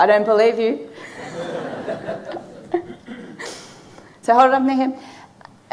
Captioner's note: audience laughing